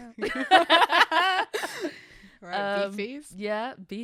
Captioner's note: laughs